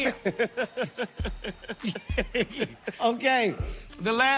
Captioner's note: laughter